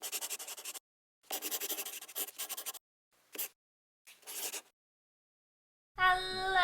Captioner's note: the sound of a pen scratching